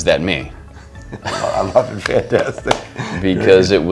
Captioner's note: chuckles